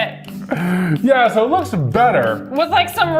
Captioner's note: laughing